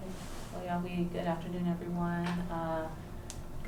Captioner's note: non-english